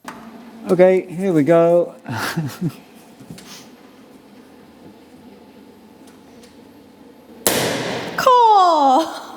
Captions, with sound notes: Okay, here we go. (laughs) Cor!